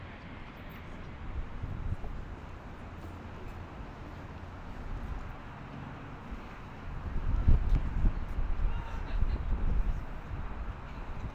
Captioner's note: wind in the background, talking, and laughter